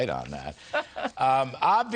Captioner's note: laughter